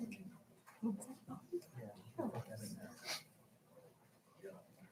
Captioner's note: people chattering